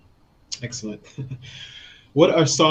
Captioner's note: chuckles